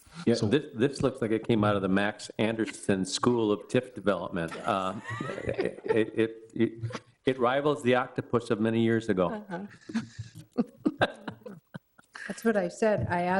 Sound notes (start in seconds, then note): 4.5 all chuckling; 9.5 chuckling